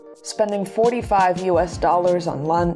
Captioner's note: none